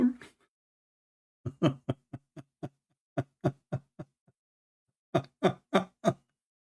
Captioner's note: Ketawa